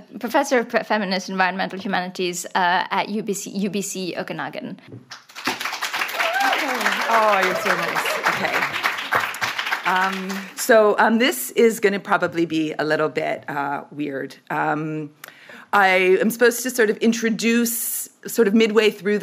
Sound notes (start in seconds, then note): 5.1 audience applauds; 7.4 chuckles